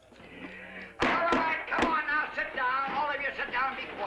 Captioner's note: banging